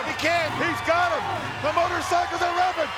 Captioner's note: motorcycle engine revving